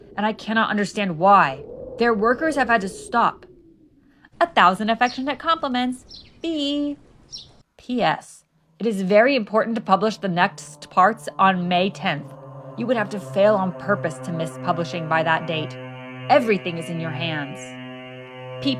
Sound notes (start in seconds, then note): 6.0 bird chirping; 11.0 ominous noise growing louder